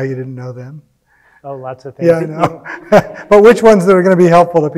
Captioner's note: laughs